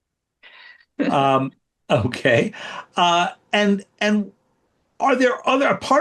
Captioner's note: laughs